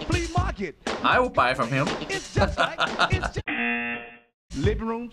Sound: laughs; buzzer

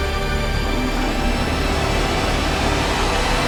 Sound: snarling

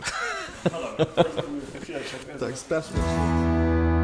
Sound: laughter

